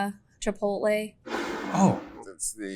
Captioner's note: bottle scrapes